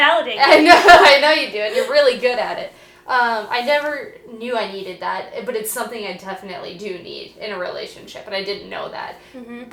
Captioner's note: laughing